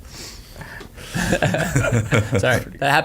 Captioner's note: laughing